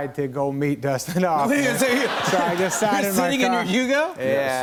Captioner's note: laughter